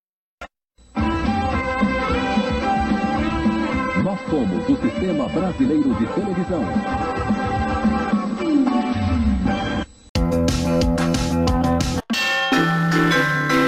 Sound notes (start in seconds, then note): 4.1 man speaking portuguese